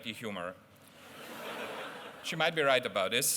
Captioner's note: laughter